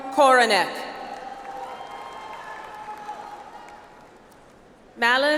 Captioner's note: audience applauds